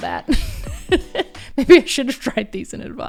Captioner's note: laughs